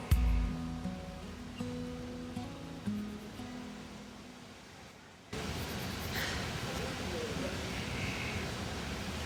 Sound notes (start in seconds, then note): 5.3 lobby noises; 5.3 water fountain sound